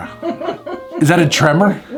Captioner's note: woman laughing